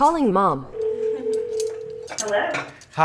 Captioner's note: phone ringing